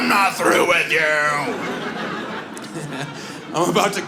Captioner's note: audience laughs